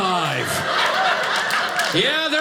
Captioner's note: audience laughing